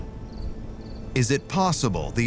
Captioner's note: crickets chirping